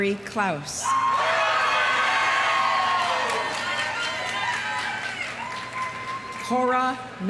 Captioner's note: audience cheering; audience applauding